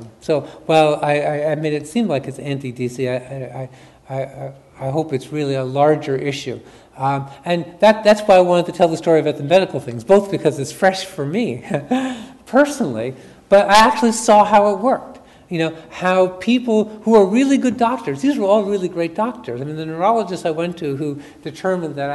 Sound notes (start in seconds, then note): 11.6 chuckles